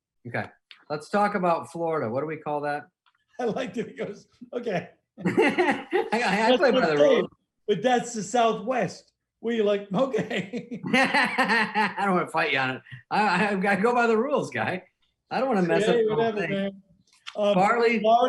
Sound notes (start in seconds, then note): 5.2 both laughing; 10.0 laughing